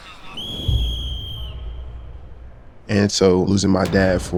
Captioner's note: whistle blowing